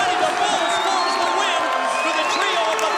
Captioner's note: bell ringing; crowd cheering